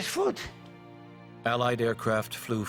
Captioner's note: voiceover